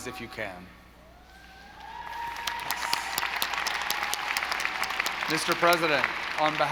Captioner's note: audience applauding